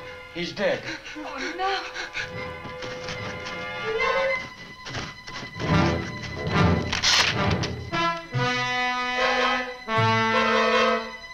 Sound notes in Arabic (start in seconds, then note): 2.7 خدش مكتوم